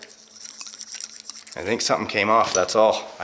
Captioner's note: rattling continues